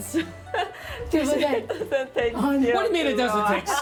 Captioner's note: speaking local language